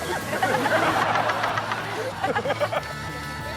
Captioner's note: laughs